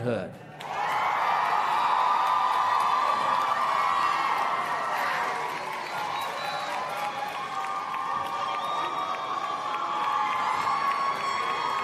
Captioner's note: applause and Cheering